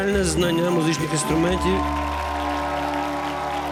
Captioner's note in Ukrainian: оплески